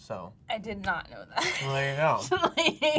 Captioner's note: laughs